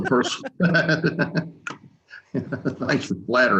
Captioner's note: laughing; chuckles